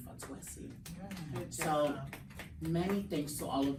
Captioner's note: everyone clapping